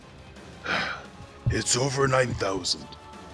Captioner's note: sigh